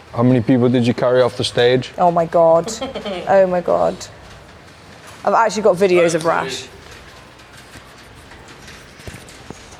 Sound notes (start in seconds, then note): 2.5 laughing